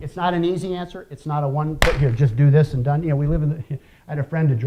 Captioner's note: clap